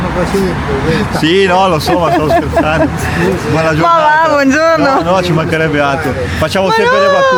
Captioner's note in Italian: risate